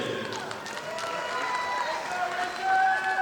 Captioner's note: audience applauding